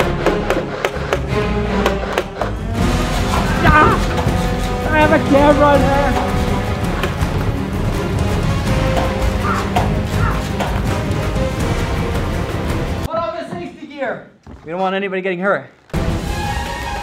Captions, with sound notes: (yells) I have a camera! Pull out the safety gear! We don't want anybody getting hurt.